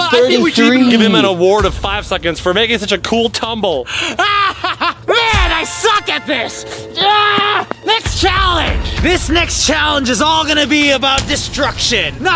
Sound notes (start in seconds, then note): 3.9 manic laughing